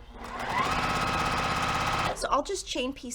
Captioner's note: sewing machine rattling